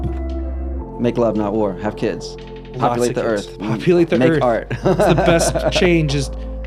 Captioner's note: laughs